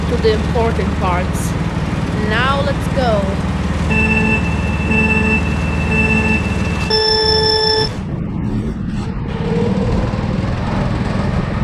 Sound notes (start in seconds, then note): 3.8 Mario Kart Wii Countdown Chime; 9.7 go-kart engine sound intensifies